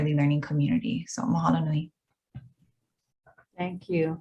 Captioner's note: speaks in foreign language